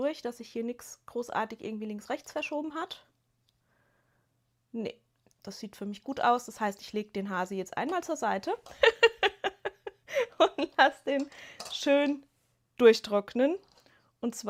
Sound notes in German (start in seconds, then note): 8.7 gelächter